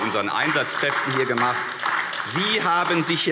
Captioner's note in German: Beifall AfD